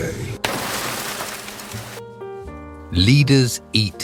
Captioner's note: static crackling